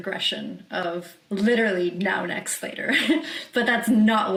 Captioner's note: chuckles